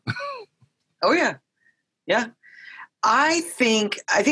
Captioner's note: laughs lightly